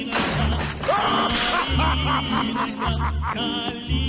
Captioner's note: laughing